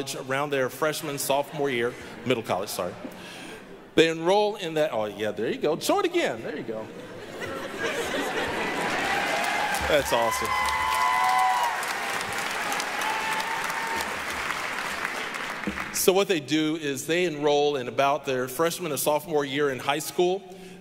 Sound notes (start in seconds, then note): 1.0 audience laughing; 6.8 audience laughing; 8.7 applause, cheering; 12.4 applause